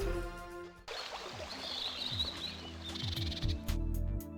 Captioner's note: water trickling